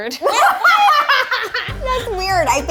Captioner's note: all laughing